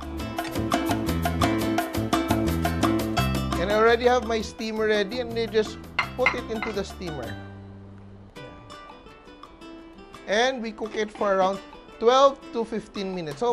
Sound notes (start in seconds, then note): 6.0 clink